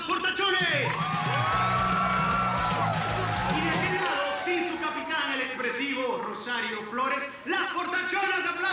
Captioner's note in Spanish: Gritos y exclamaciones